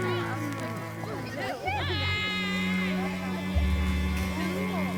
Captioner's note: children chattering